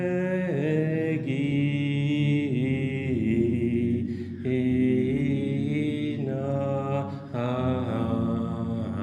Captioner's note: chanting